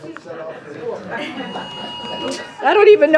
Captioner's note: laughter